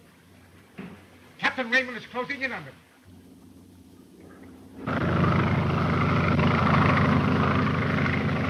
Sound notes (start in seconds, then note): 4.3 airplane buzzing